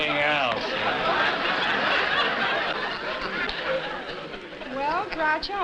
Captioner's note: laughter